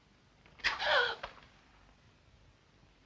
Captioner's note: gasps